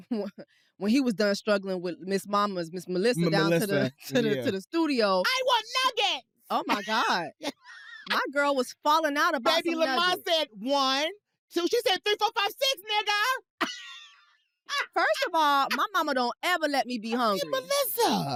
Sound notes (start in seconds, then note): 0.0 chuckles; 6.6 laughs; 13.2 laughs